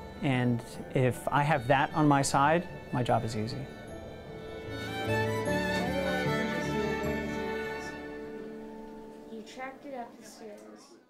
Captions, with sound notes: and if I have that on my side, my job is easy. (whimsical string music) (children talking)